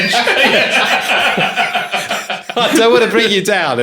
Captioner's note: laughing